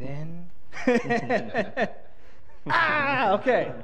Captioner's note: laughter